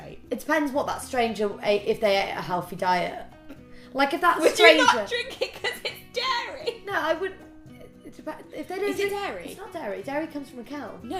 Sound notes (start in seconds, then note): 4.4 laughing